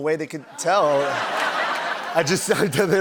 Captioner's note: laughter